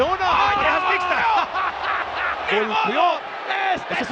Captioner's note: laugh